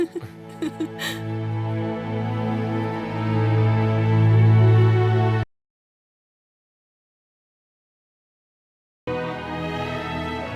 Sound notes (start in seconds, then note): 4.5 laughs; 6.3 slow orchestral music continues